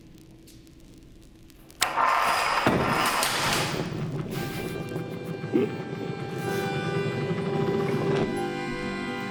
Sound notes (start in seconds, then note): 1.8 banging; 4.2 gentle music